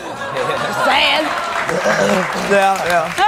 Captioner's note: audience applauds